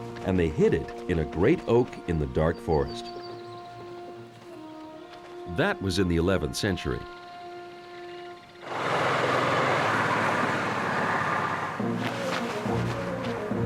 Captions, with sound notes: And they hid it in a great oak in the dark forest. That was in the 11th century. [engine buzzing] [adventurous music playing]